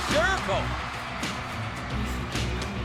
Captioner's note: crowd cheering